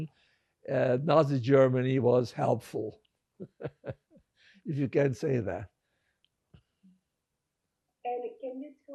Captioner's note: laughing